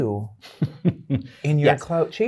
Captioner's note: guy laughing